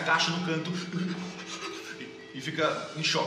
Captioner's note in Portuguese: hiperventilando